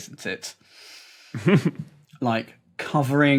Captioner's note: snickers